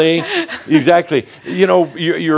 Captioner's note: she chuckles